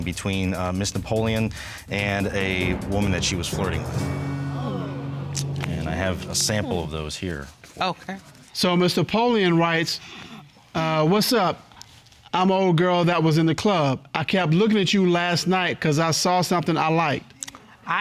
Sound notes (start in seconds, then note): 3.8 audience sighs